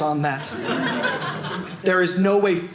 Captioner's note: audience laughing